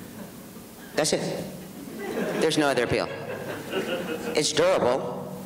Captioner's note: audience laughs